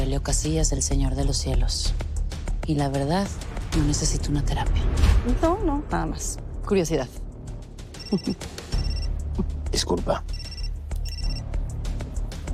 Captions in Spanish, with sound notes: Prima de Aurelio Casillas, el Señor de los Cielos. Y la verdad, no necesito una terapia. - No, no, nada más curiosidad. [Suena el celular] - Disculpa.